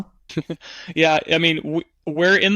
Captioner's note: laughs